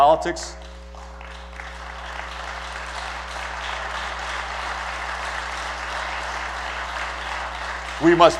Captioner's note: applause